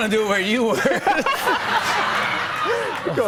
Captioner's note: laughter